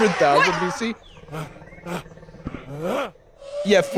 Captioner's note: caveman grunting